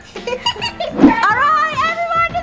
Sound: laughs

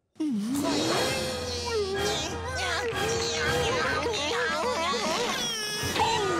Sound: groaning

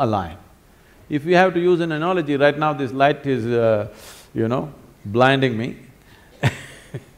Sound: laughs

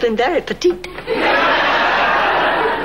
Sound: audience laughing

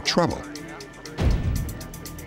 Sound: police radio chatter

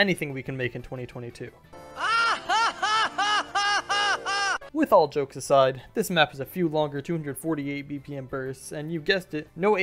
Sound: laugh

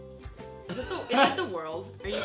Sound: laughs

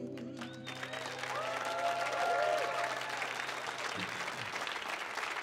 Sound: audience cheering

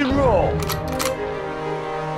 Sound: gun Clicks

